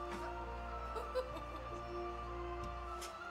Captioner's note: ride laughing